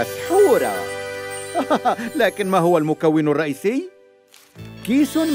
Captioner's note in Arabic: صوت ضحك